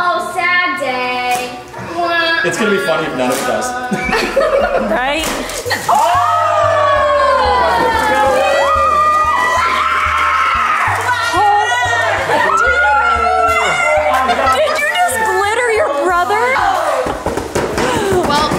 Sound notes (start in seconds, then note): 3.8 group laughing; 6.8 group cheers